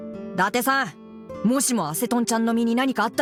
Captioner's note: none